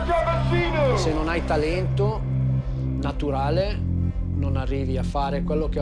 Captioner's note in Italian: parla in italiano